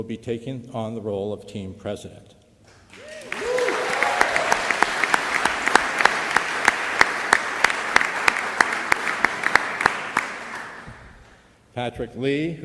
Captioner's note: applause